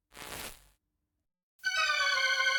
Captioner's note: static crackling; ominous organ music